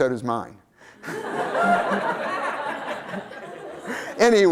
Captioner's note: laughter